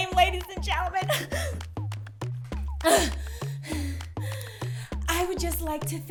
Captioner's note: gasping